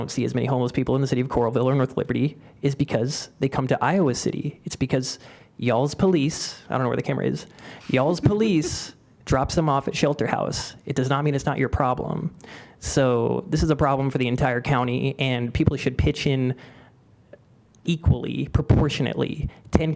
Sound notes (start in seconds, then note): 7.5 laughter